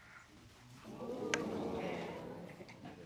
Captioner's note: audience exclaim